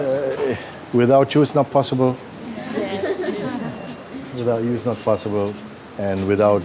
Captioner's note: voces en el público; risas